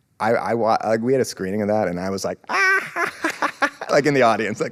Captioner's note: laughs